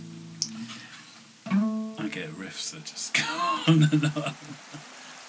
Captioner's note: laughs